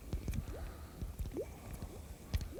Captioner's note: bloop, Bloop